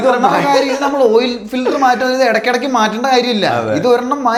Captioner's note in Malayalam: പൊട്ടിച്ചിരി